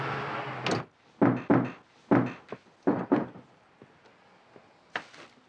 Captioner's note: knocking on door